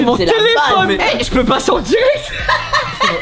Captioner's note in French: rire